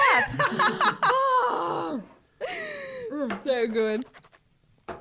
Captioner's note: laughs